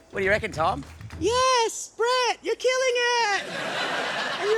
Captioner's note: high-pitched voice